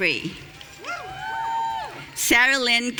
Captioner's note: audience cheering